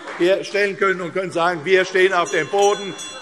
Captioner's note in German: Anhaltende Zurufe AfD